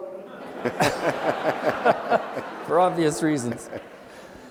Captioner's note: audience laughing